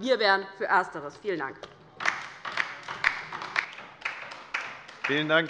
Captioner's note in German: Beifall bei der LINKEN